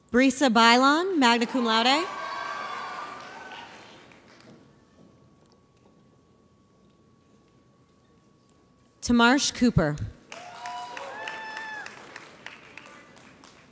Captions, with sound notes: Brie Cebaylon, magna cum laude. (audience cheers) Tamarsh Cooper. (audience applauds)